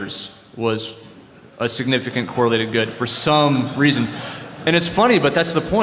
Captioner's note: laughter